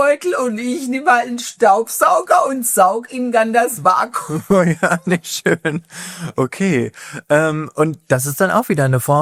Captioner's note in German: gelächter